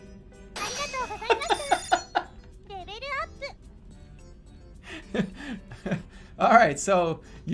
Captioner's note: laughing and giggling